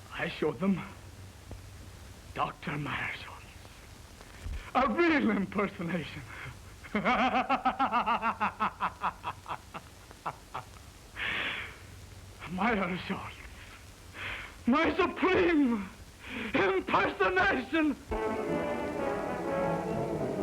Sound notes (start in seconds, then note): 10.7 maniacal laughter